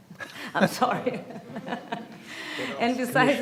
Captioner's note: laughs